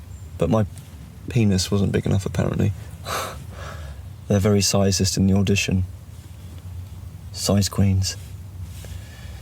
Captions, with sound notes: But my penis wasn't big enough apparently. (huffs) They're very sizist in the audition. Size queens.